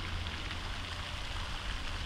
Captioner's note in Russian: звуки воды